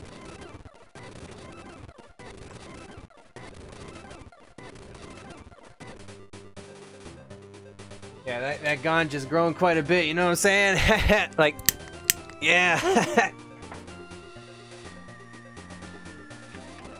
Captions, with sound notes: Yeah, that Ganja's grown quite a bit, if you know what I'm saying. HEH HEH....! (lighter clicking noises) Yeah! Heh heh...